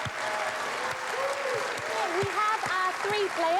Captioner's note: cheers and applause